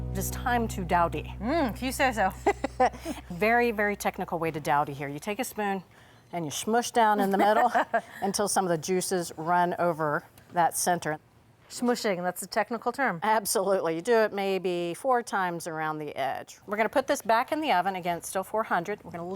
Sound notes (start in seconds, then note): 2.2 laughs